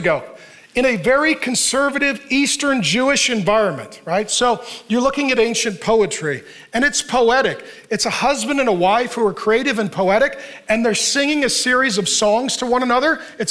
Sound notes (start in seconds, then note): none